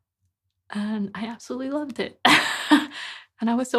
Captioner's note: laughing